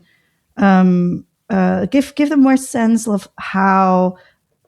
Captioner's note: uh